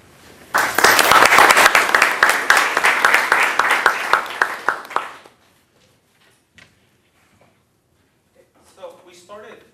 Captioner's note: applause